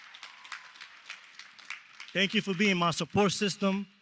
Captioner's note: applause